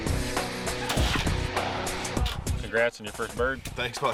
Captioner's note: gun fires